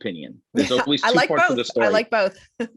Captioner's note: chuckles